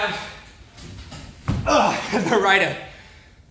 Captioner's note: grunts